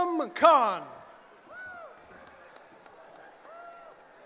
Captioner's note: cheering